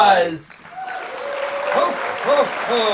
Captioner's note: audience applauds